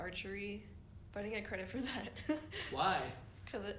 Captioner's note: laughs